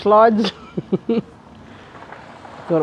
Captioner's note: chuckle